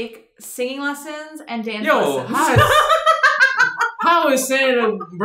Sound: laughs

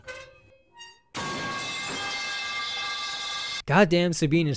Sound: metal pipe noises

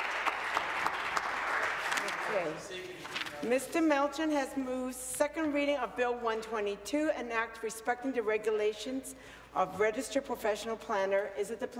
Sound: some Applause

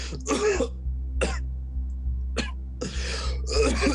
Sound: coughing

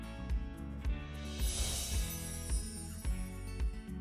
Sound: screen whooshing

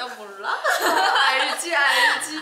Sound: laughing

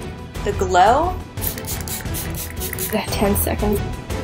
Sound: bottle spraying

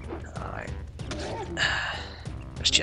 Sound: disgruntled noises

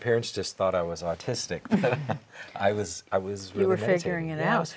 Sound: laughs

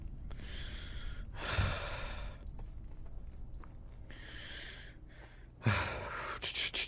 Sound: heavy breathing because im spooked

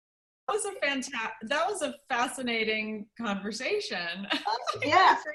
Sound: laughter

